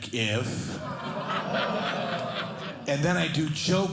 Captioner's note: audience laughing